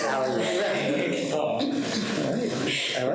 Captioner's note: people laughing